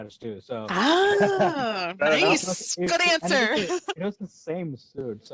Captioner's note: laughs